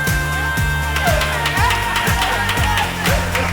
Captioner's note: laughing, clapping